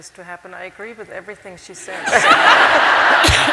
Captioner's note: laughter